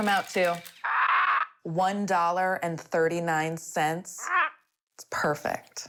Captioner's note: bird squawks